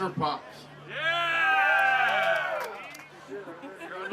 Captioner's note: crowd cheering